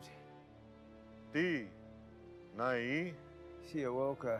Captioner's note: speaking in foreign language